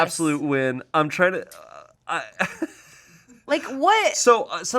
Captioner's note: laughs